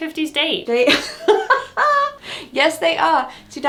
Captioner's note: laughs